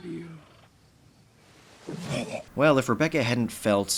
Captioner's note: retches